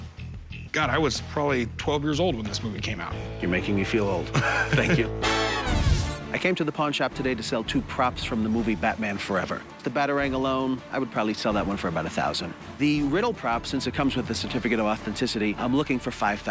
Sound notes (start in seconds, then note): 4.3 laughs